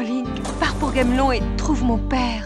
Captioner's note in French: bruits de patins à roulettes